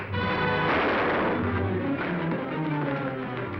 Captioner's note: gun firing